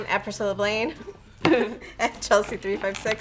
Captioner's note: giggles